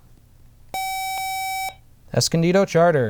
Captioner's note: buzzer